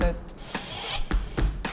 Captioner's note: sharp inhale